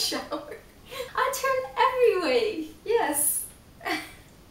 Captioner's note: laughs